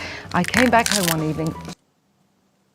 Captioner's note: stem crunching